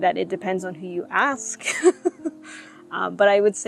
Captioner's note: laughs